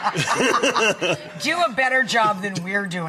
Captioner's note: all laugh